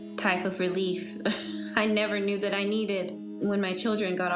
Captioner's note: chuckles